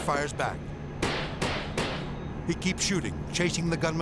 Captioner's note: gun firing